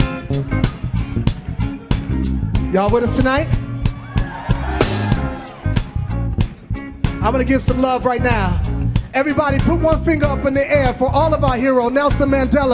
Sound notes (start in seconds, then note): 0.0 hip hop music; 4.8 audience cheering; 5.6 hip hop music